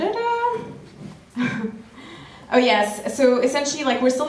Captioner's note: laughs